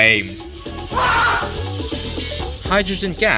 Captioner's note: customer screams because of the enjoyment he gets from our product